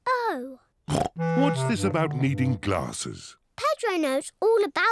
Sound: snorts

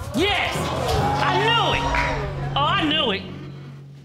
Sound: audience cheering

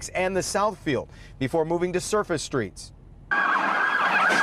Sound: siren

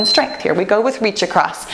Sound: timer beeps

